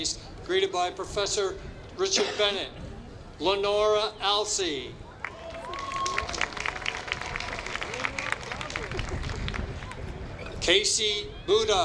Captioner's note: applause